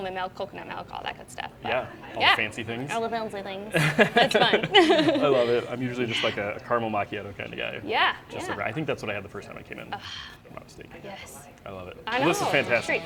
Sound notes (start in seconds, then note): 3.7 laughing